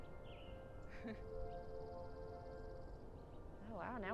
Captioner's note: laughs